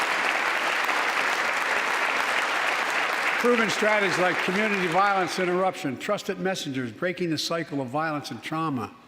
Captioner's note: applause